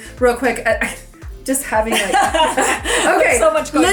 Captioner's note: laughs